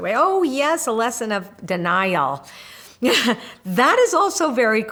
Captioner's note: laughs